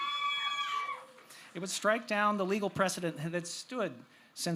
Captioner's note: cheers